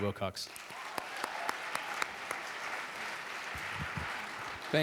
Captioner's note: audience clapping